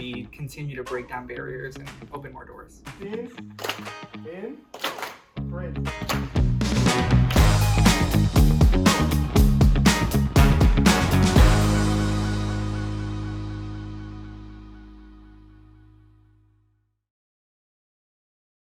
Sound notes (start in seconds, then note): 3.5 clapping; 7.2 upbeat music